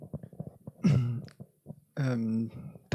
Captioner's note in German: räuspern